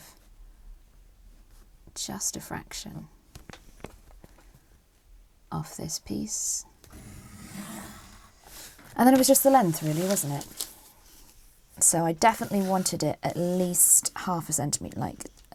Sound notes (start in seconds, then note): 6.9 pencil scratches